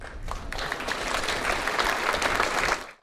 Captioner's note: crowd applauds